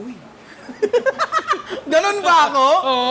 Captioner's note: laughter